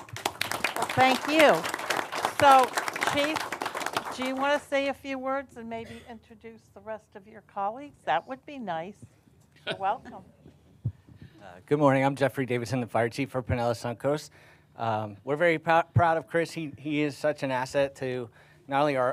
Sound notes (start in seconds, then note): 3.3 applause